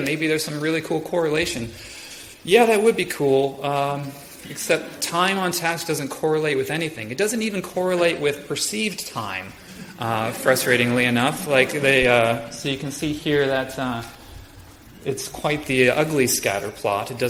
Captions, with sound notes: maybe there's some really cool correlation. Yeah, that would be cool except time on task doesn't correlate with anything. It doesn't even correlate with perceived time, frustratingly enough. (audience laughs) So you can see here that it's quite the ugly scatterplot,